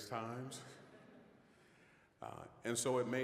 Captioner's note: all chuckling